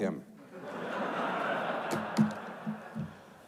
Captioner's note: audience laughs